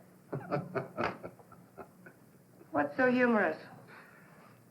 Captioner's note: chuckling